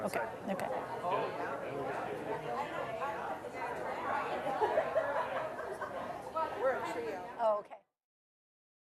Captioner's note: general chatter